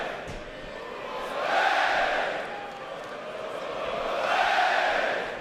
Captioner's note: fans chanting